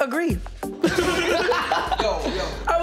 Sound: laughs

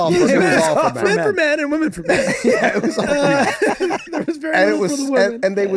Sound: laughing

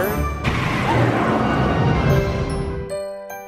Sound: roaring fire

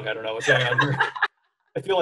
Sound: chuckles

